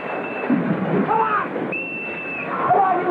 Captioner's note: whistle; whistle